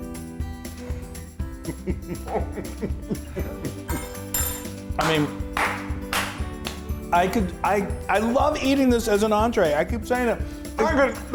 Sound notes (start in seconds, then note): 1.6 chuckling; 4.9 clapping